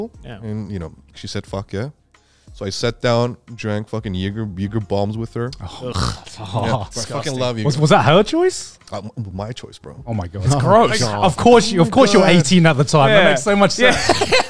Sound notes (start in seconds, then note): 5.6 scoffs